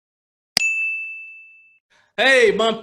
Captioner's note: bell rings